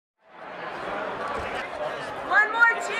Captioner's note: crowd chattering indistinctly in background